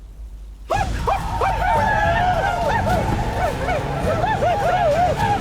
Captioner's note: war cries